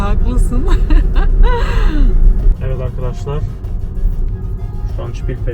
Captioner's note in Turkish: kahkaha